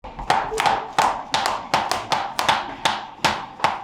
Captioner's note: shoes clacking